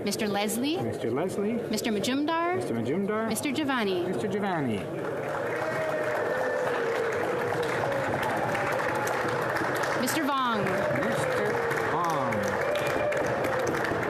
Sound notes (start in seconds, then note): 1.8 applause